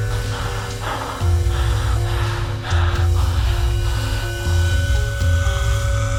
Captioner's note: heavy breathing; zombie Sounds